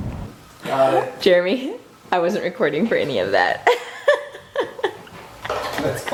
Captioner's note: laughs